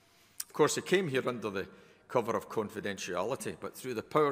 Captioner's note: none